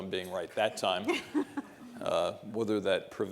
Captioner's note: laughing